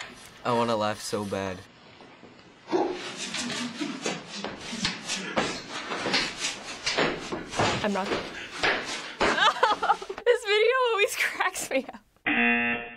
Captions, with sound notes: I wanna laugh so bad. (in video: fierce grunting) I'm not gonna... (cracking up) This video always cracks me up. (rejection buzzer)